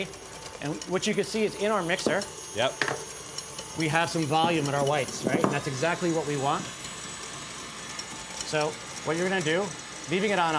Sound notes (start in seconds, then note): 7.0 whirring speeds up